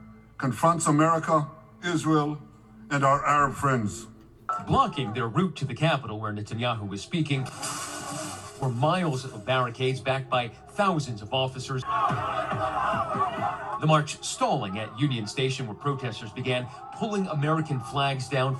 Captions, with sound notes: confronts America, Israel, and our Arab friends. - Blocking their route to the capital where Netanyahu is speaking, [Protest sounds] were miles of barricades, backed by thousands of officers. [Crowd shouting] The march stalling at Union Station where protesters began pulling American flags down